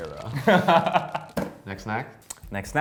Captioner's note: laughs